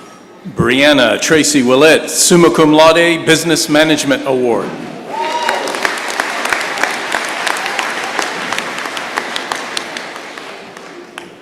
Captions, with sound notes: Breanna Tracy Ouellette, Summa Cum Laude, Business Management Award. [applause]